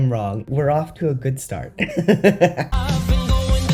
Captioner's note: laughter